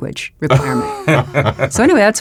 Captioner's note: laugh